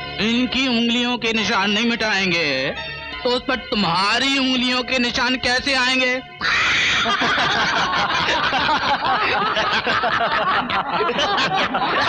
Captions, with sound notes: If he doesn't wipe his finger prints.. ..how will your finger prints come on that? [All Laughing]